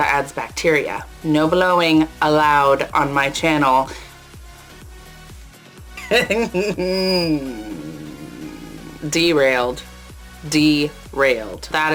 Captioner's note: giggles